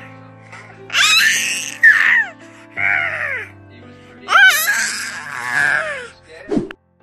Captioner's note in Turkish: Bebek ağlama sesi